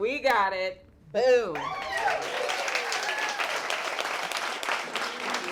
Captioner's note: audience clapping